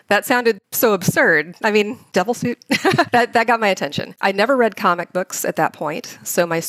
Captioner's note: chuckles